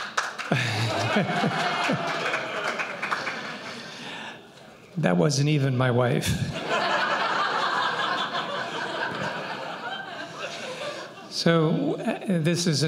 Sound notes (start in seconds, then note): 0.4 laughter; 6.4 laughter